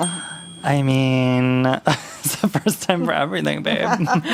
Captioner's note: laughs